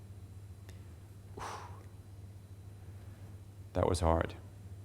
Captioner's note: exhaling